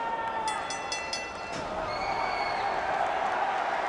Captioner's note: bell rings